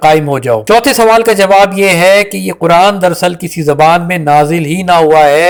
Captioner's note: Arabic